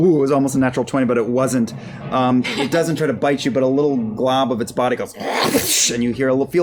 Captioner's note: whipping noise